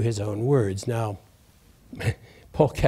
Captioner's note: laughs